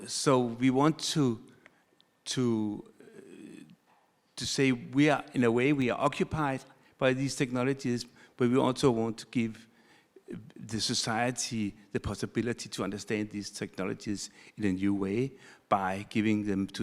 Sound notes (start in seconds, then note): none